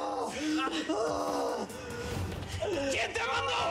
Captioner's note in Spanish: sollozos; gritos